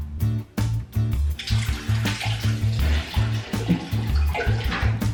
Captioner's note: water splashing